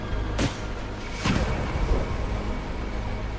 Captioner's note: laser blast